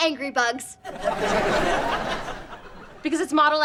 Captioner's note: laughs